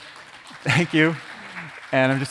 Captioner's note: audience applauding